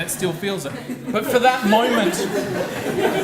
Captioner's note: audience laughs